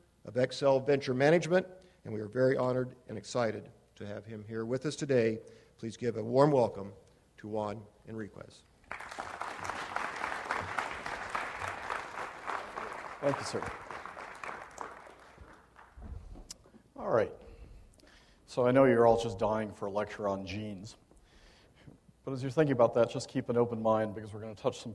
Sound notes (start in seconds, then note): 10.5 audience applauds